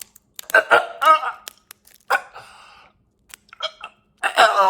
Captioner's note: Chuck gurgling